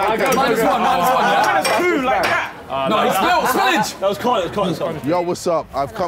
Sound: all chattering

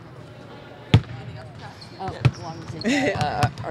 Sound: basketballs bouncing

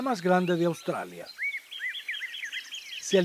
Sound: birds chirps and calls

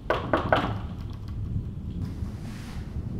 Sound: knocking

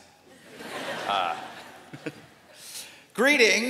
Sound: laughter

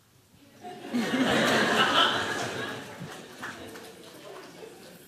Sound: laughter

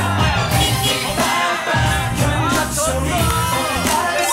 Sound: beep Beep

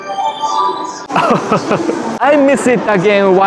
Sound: chuckles

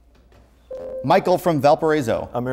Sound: buzzer

